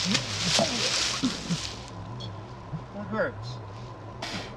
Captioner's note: Oliver retching